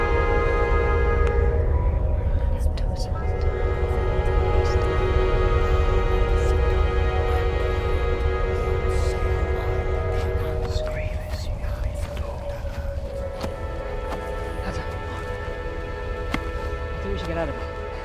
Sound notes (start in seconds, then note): 1.8 Celtic voices whisper; 3.8 orchestral music intensifies